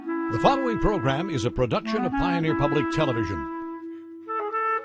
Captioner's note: voiceover